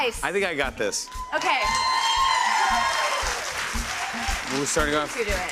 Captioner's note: cheers and applause